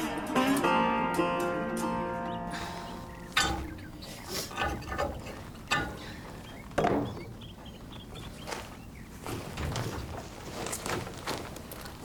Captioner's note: snorts